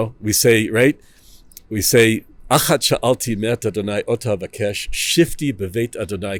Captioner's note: Hebrew